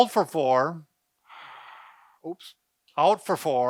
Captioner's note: exhaling